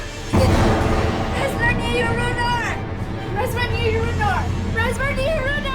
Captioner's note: speaking in foreign language